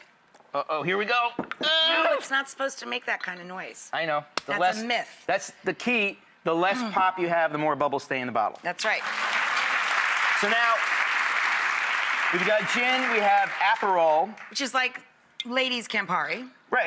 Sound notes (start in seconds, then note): 8.8 applauding